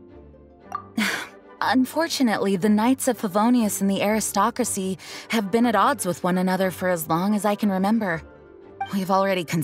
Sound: sigh

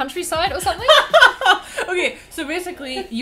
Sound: laughs

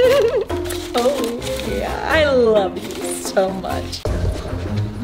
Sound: laughing

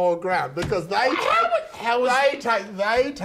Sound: screaming

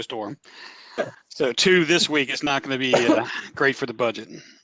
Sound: laughter

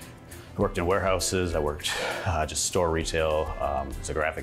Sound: sighing

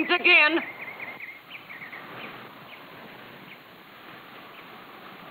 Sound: wind blowing

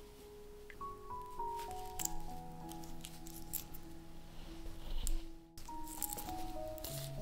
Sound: snickety snack of needles working

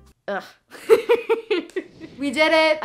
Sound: laughing

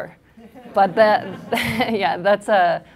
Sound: laughs

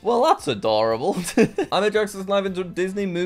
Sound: laughs

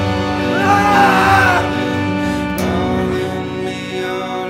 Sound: screaming man

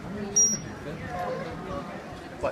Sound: trainer blows high-pitched whistle for a fraction of a second

